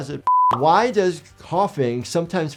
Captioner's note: screen beeping